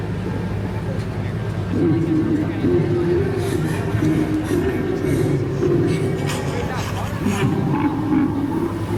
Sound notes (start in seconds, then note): 2.5 creature laughing